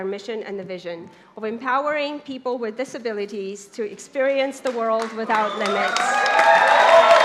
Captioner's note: clapping